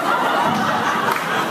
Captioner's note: laugh